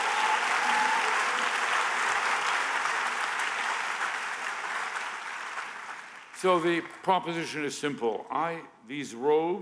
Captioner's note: applause